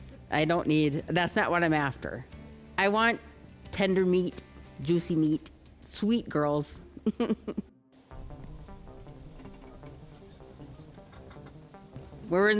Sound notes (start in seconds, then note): 7.0 chuckles; 8.0 tense foreboding music